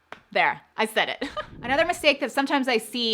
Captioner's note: giggles